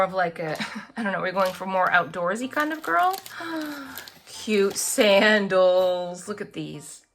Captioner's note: laughs; gasps